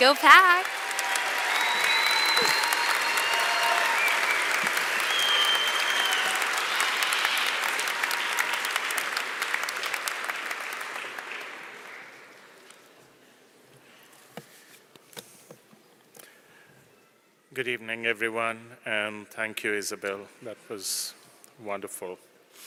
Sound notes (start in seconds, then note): 0.0 applause; 6.3 cheering